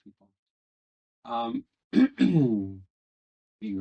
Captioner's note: clears throat